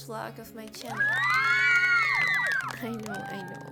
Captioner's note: applause